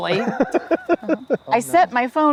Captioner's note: laughs